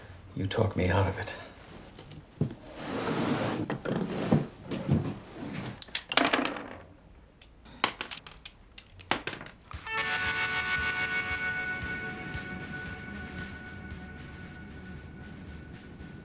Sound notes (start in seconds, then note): none